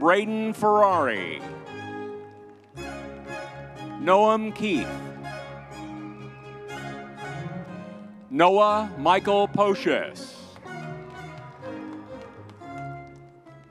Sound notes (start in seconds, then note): 5.3 crowd cheering; 10.6 crowd cheering